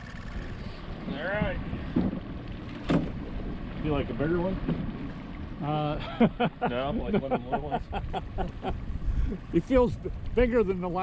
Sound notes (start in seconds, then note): 2.5 boat engine idling; 7.4 laughing